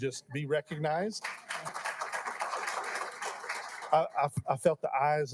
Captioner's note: applauding